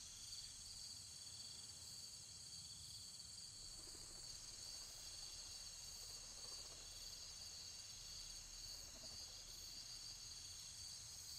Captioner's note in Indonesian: suara serangga